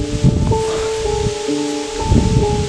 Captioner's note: whispers